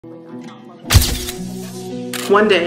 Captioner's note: gentle music; camera flash clicking